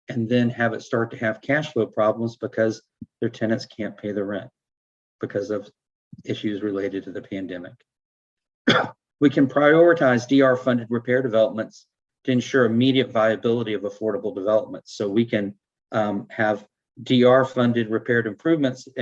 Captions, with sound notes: and then have it start to have cashflow problems because their tenants can't pay the rent because of issues related to the pandemic.(coughing) We can prioritize DR funded repair developments to ensure immediate viability of affordable developments. So we can have DR funded repaired improvements